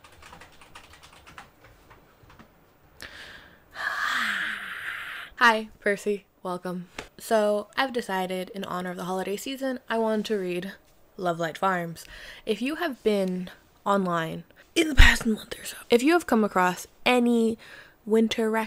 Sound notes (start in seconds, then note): 0.0 agressive tip tap typing; 2.0 screams in lower case